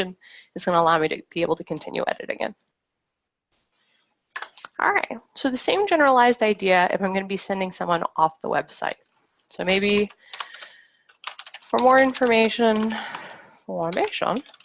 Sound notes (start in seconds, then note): 11.1 keyboard keys clacking